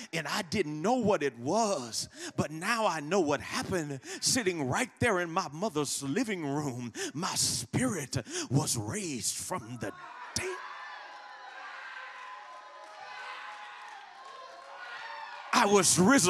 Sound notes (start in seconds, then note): 12.3 congregation cheering